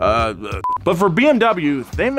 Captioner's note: beep